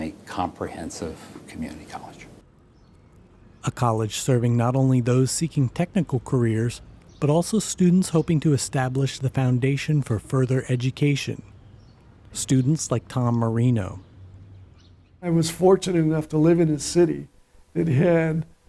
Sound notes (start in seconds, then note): 3.7 voiceover